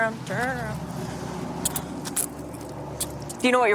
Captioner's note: handcuffs clicking